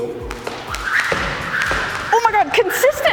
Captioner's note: rope whistling